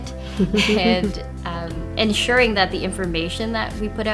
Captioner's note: laughing